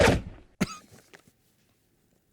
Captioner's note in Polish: kaszlnięcie